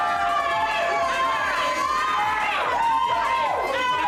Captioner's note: friends cheer